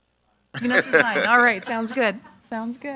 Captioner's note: Chairman speaking faintly; laughing